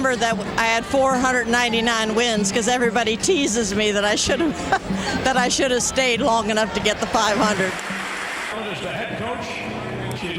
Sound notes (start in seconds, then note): 3.9 laughs